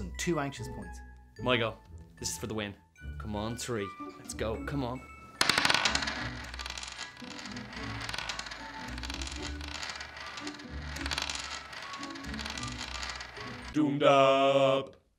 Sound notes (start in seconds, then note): 7.4 dice is rolling